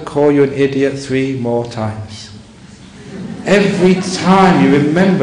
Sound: laughter

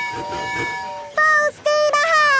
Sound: tooting

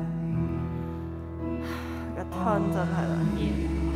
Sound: sigh

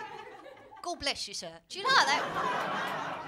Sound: cockney accent; laughter

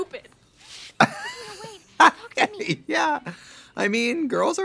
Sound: Trixie laughs

